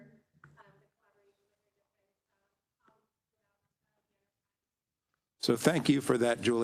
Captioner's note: faintly speaking